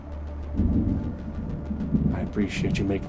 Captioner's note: tense music; thunder rumbling